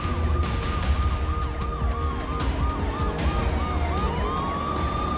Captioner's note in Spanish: Disparos